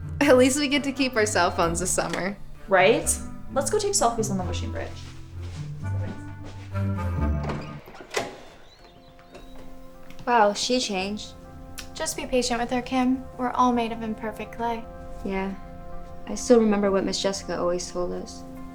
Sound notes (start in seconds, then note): 5.9 girls faintly chattering; 8.7 birds chirping; 8.7 soft music